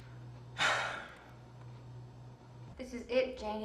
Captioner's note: Jim sighs